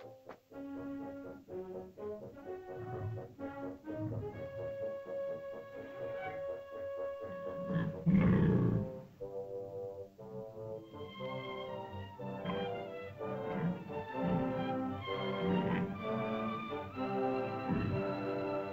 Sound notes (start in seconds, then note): 0.3 suspenseful music; 7.2 dinosaur growls; 9.1 suspenseful music; 13.2 dinosaur grunts